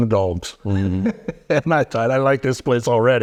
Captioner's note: chuckling